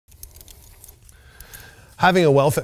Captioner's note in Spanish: collar haciendo clic